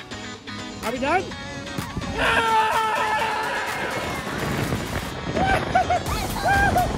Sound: screams

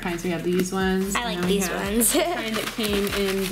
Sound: laughing

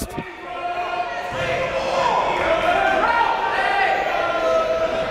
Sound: cheering and yelling

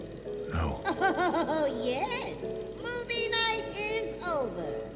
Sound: chuckling

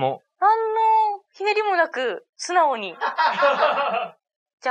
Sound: laughs

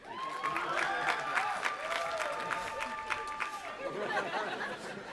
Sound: audience applauding and cheering; audience laughing

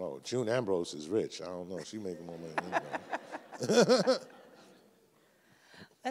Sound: everyone laughs

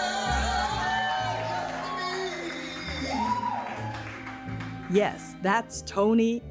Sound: audience cheering

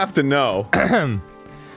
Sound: clears throat

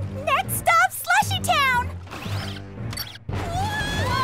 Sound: the spies scream

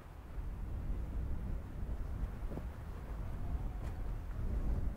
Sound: wind blowing

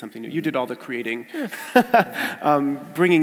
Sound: laugh

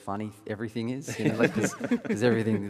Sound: panelists laughing

